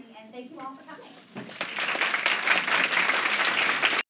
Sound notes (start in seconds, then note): 1.4 applause